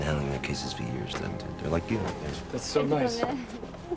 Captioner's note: speaking foreign language